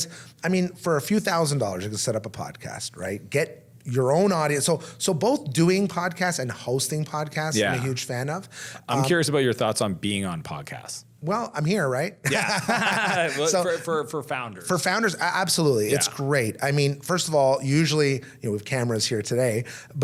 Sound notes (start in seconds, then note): 12.2 laughs